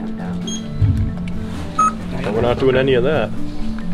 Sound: machine beeps

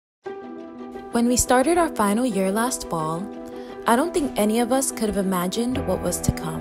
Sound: voiceover

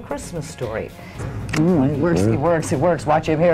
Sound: kissing lips

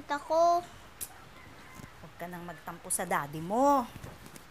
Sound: Ling clicks tongue

